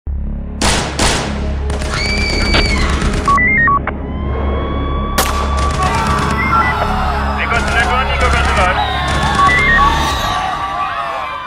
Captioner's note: gun firing and people screaming